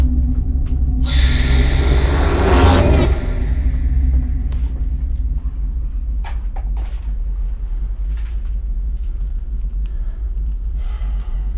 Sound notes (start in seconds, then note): 1.0 dramatic music; 1.7 door creaks